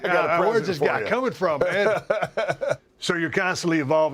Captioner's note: laugh